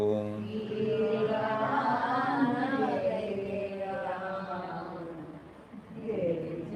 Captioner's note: audience chanting